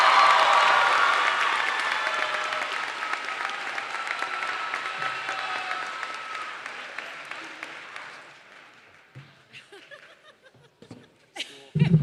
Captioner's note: applause